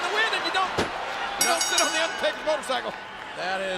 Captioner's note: bell rings